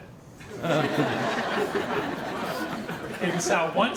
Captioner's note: audience laughing